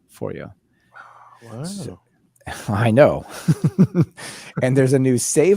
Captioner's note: laughs